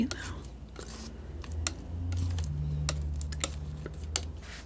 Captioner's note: scratching